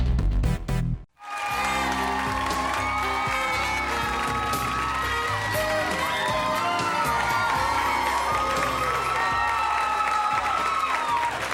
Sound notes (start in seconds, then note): 1.4 cheering; 1.7 smooth jazzy music